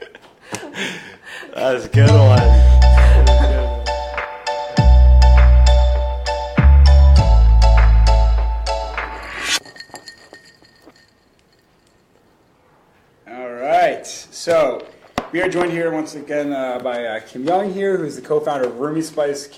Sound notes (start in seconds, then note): 1.9 techno music; 9.6 ice rattles in glass